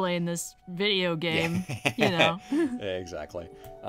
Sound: laughs

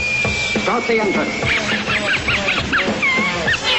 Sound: laughing

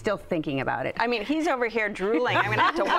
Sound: laughter

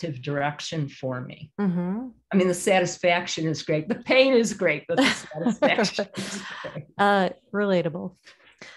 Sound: laughter

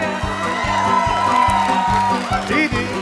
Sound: cheers

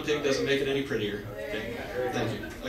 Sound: audience murmurs

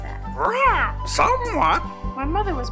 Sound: squawking

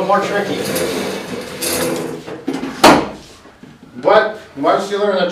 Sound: chairs sliding

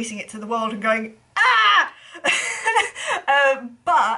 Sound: laughs

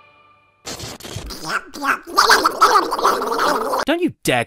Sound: angry fake donald duck noises

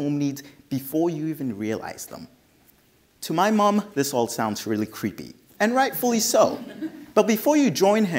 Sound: audience laughs

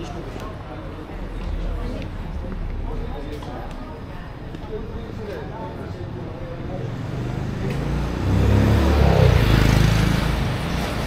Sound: engine revving; people chattering

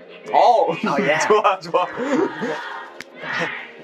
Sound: mimicking

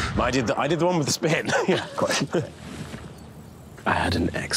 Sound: laughs

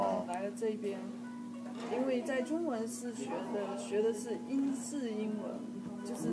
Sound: mandarin

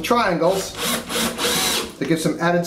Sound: sound of drill

